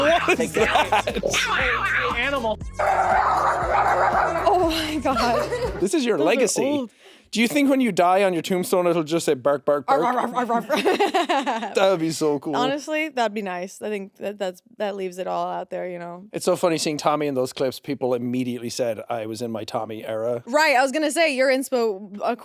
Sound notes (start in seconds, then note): 0.0 Jacksepticeye laughing; 0.0 barking; 2.8 barking; 10.0 chuckles